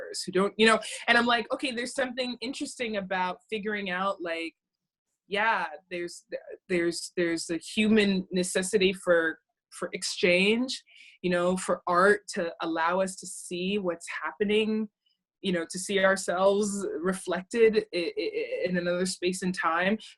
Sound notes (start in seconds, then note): none